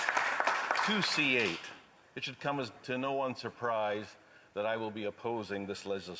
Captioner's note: some Applause